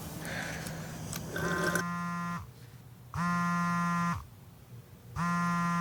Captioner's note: cellphone vibrating